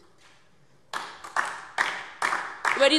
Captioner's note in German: Beifall